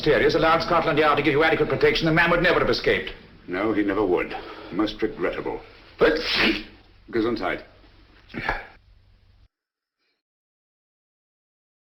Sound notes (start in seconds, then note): 6.1 sneezes